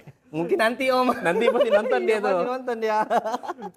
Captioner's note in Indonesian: tertawa